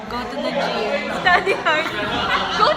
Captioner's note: laughs